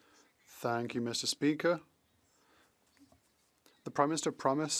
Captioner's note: speaking French